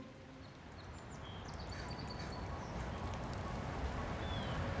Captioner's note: birds chirping